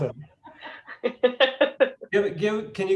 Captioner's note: laughing